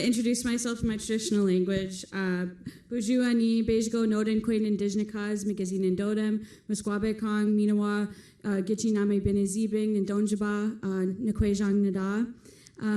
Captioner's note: foreign language; foreign language